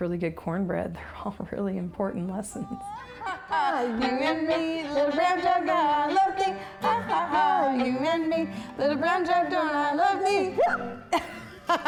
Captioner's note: laughter